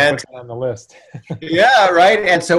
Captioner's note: chuckles